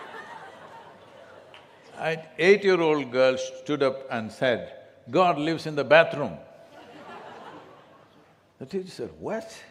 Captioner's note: laughter; few laugh